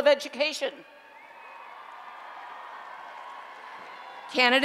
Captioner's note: applause and Cheering